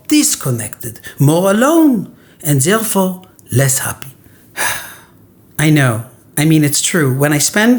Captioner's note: sigh